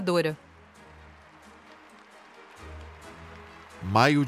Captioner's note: crowd applauds